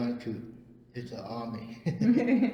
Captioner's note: laughs